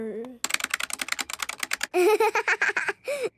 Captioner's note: keyboard clicking